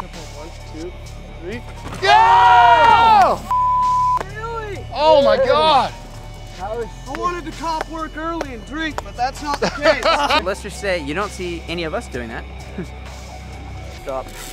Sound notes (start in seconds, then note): 2.1 shouting; 9.6 laughter